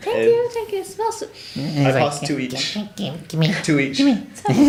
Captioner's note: inhales